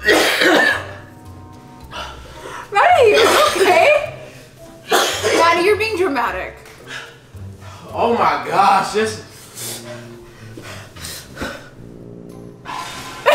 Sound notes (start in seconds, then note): 0.0 coughing; 4.8 coughing; 10.0 playful music